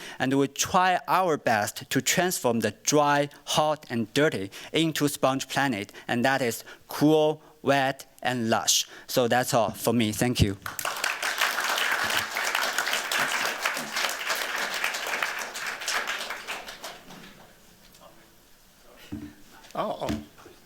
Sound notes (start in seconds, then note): 10.6 applause